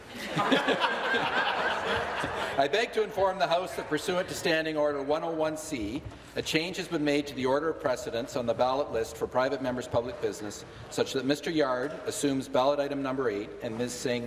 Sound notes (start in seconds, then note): 3.6 laughter